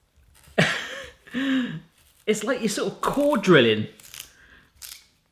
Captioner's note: laughing